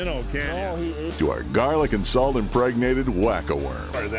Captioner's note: voiceover